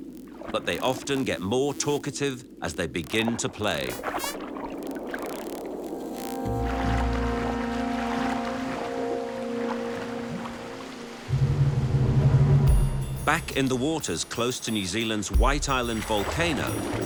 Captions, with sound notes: but they often get more talkative as they begin to play. [dolphins clicking] Back in the waters close to New Zealand's White Island volcano,